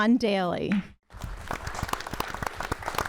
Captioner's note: applause